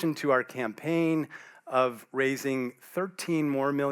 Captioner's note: none